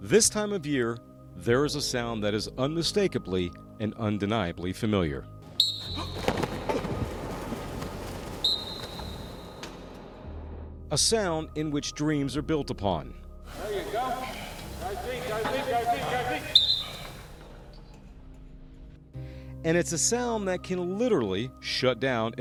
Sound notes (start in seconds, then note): 5.6 football whistle; 5.7 whistle